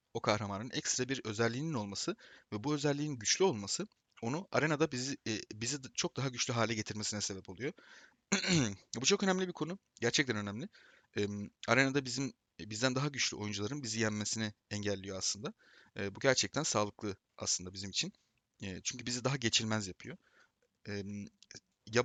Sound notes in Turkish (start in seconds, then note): 8.3 boğazını temizler